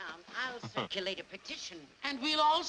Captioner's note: laughs